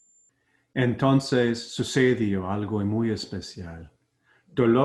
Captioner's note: foreign language